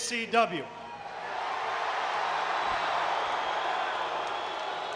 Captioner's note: audience cheering